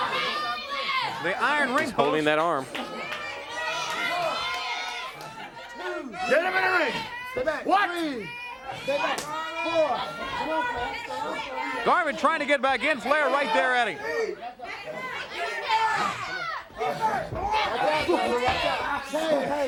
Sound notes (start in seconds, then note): 11.7 crowd chatter; 15.2 crowd chatter